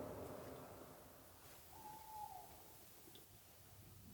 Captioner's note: an owl hoots in the distance